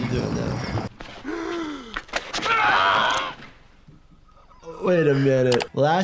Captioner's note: victim 5 gasps and screams